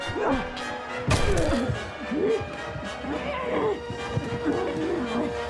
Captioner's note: body thumping; vivien groaning